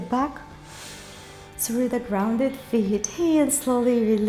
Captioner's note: inhales